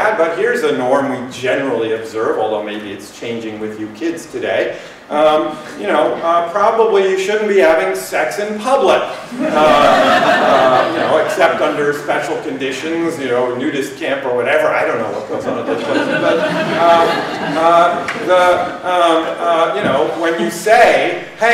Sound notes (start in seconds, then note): 9.3 laughter; 15.2 laughter